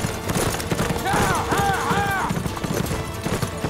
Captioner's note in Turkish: Bağırıyor